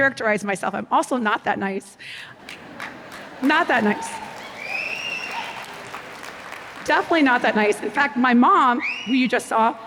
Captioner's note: applause